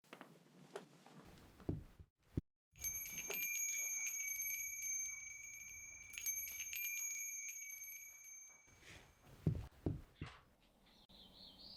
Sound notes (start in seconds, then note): 2.8 bells ringing